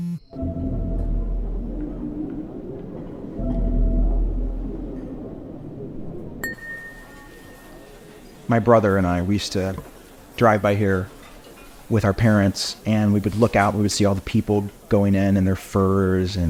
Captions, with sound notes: (dramatic music) (glass tapping) - My brother and I, we used to drive by here with our parents, and we would look out, we would see all the people going in and their furs